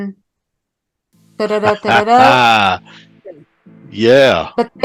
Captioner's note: laughing